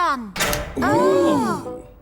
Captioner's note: click